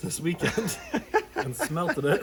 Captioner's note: laughs